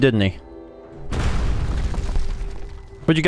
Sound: boom!!!

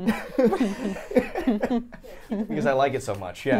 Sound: laughs

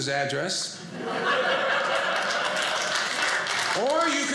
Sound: audience laughing

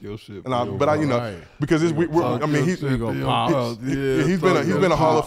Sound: group chattering

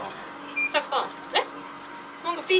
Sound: beep

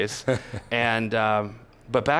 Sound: laughs

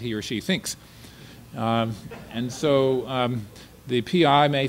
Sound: audience laughter

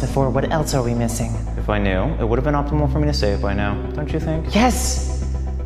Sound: sassy

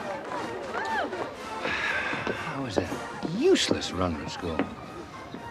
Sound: sighs

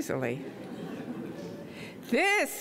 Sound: audience laughing

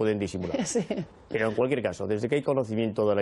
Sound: laughing

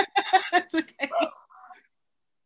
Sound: laughing

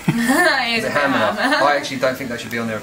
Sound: laughs

